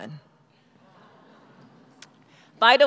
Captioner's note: crowd murmuring